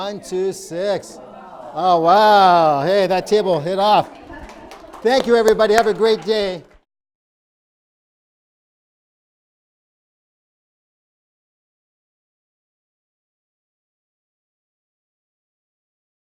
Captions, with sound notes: - [Crowd] Oh, wow. - Oh, Wow. Hey, that table hit off. Thank you everybody. Have a great day.